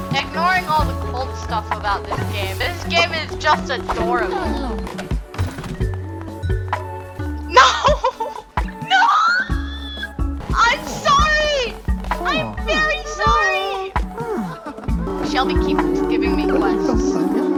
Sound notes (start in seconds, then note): 7.4 laughing